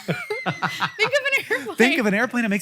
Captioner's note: Rachel and Hank laugh